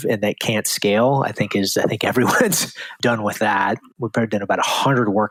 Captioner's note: laughs